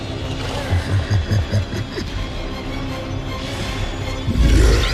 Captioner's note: sinister chuckle